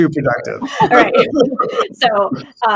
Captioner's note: group laughing